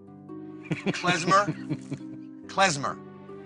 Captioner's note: laughing